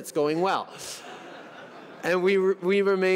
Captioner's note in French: Rires